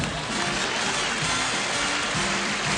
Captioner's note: applause